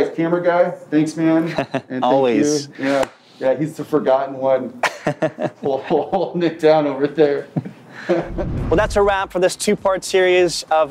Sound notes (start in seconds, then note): 1.5 laughs; 4.8 laughs